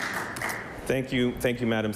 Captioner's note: applause